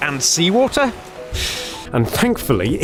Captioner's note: exhales